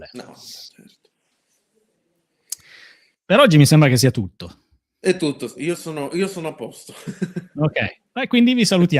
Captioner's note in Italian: risate